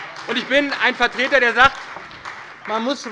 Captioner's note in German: Beifall bei der SPD